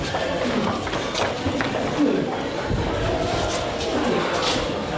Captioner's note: people running